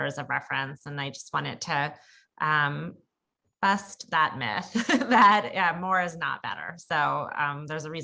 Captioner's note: laugh